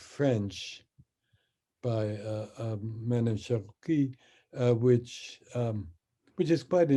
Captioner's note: speaks in French